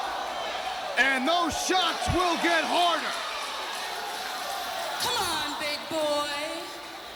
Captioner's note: crowd cheering